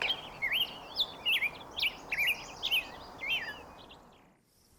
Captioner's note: bird singing